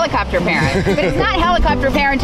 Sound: laughing

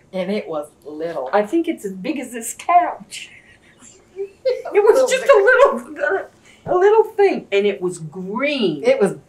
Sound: laughter

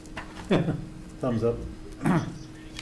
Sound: laugh

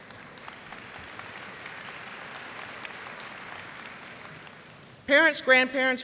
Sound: applause

